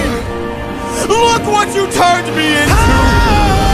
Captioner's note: ah!!